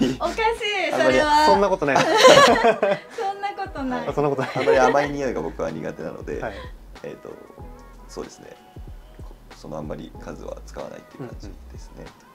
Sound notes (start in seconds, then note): 1.9 laughs